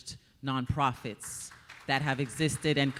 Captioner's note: audience applauding